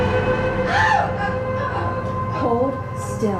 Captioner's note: Gina screaming